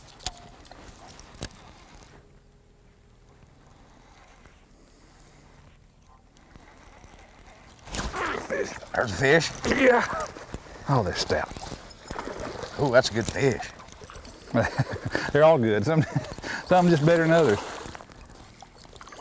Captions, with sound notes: mm! Fsih! there's a fish yeah oh they are shout! [Splash] oh that's a good fish they are all good some just better than others [splash]